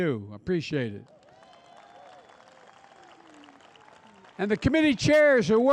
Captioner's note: applause